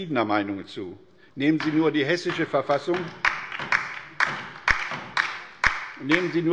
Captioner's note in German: Beifall bei der LINKEN